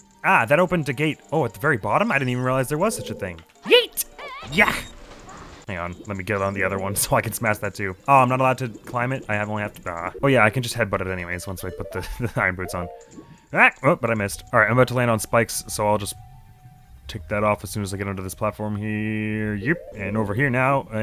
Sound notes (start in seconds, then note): 12.0 chuckles